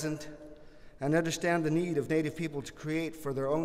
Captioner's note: none